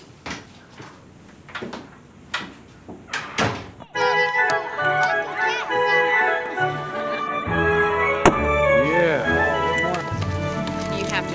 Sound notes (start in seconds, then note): 0.4 door clicks; 3.4 door bangs; 4.2 group chattering; 4.2 upbeat music; 8.2 balloon pops